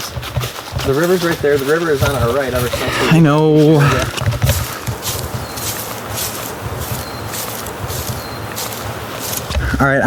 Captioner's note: exasperated